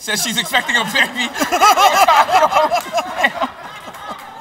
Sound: laughs; laughter

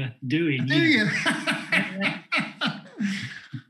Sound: guffaws

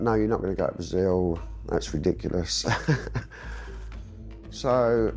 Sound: chuckles

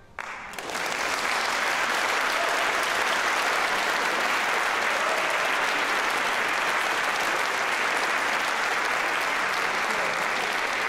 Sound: applause

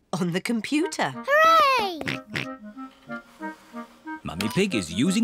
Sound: snorts

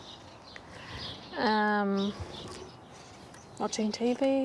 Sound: laughs

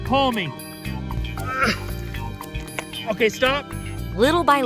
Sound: grunting

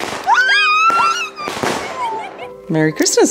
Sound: fireworks cracking

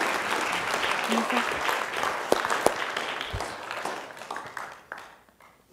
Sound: audience applauding; speaks faintly

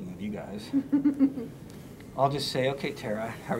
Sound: chuckles

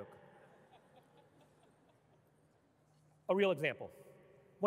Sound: audience laughing

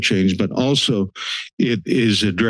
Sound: inhales

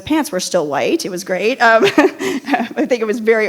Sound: chuckles

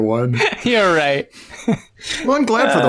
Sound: laughter; chuckles

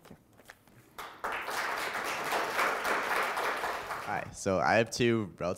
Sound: applause

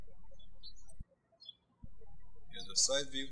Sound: birds chirping

